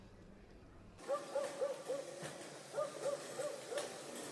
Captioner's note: dog barking